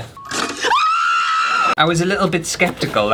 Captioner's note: screaming